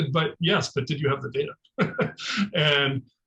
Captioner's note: laughing